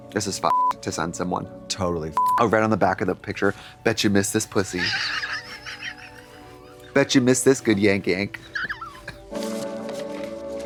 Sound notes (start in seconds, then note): 2.2 beep; 5.9 Katya rasps